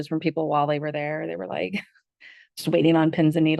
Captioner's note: laughs